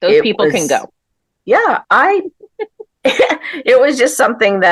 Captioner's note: laughter